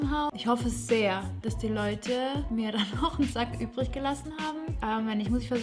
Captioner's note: laughs